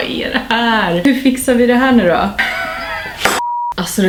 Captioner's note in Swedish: gapskratt